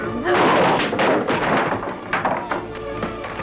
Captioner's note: table clatters; chair clatters; dramatic music